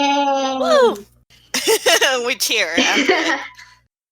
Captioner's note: laugh